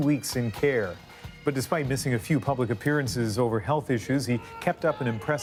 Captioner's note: cheering